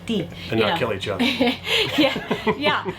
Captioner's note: laughs